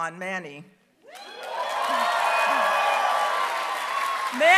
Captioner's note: applause